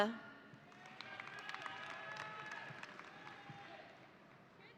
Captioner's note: audience applauding